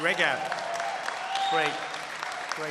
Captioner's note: applause